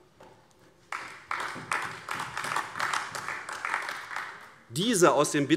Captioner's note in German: Beifall AfD